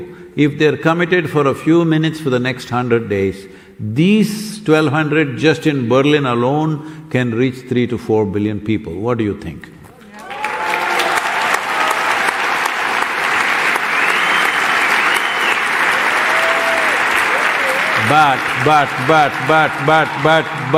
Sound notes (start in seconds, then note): 9.6 applause